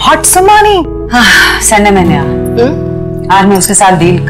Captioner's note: Deep sighs